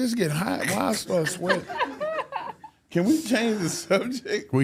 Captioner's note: laughs